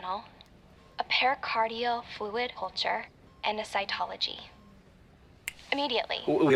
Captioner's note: snaps fingers